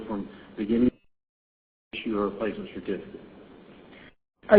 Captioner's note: audio break 00:04:55